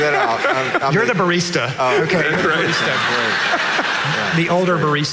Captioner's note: audience laughing